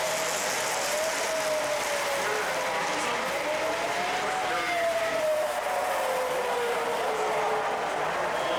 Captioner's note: fire truck siren